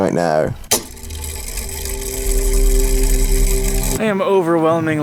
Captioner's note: mechanism whirring